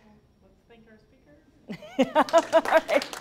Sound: laughing; applause

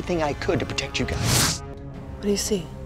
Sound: air whooshing

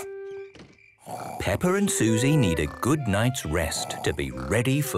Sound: Peppa and Suzy snoring

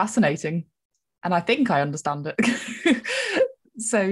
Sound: laughs

